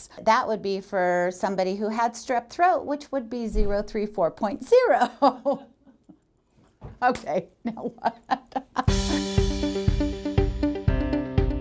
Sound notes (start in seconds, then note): 7.1 laughs